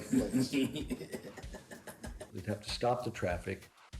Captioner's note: laughing